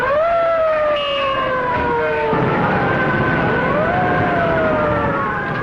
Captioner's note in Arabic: بوق السيارة; صافرات الإنذار